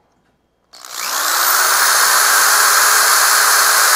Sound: loud drilling

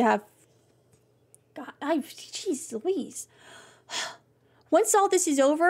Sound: deep Breath

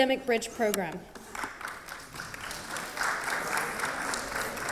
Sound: applause

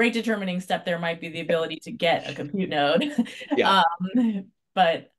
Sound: laughs

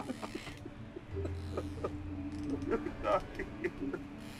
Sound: crying

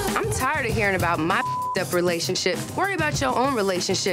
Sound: beep

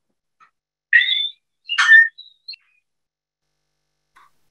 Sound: bird whistling

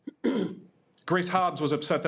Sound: clears throat

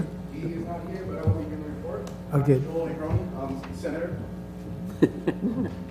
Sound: laugh

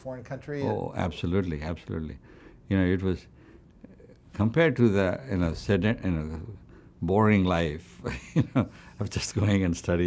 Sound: laughs

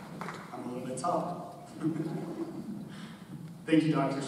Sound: chuckles

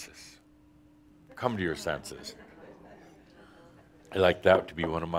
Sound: a few chuckles

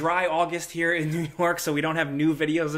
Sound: laughs

